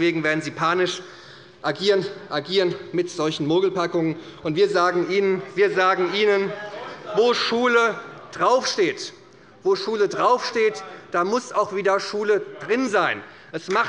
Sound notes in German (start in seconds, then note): 4.2 Zurufe von der CDU und dem BÜNDNIS 90/DIE GRÜNEN